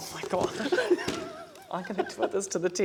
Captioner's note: laughter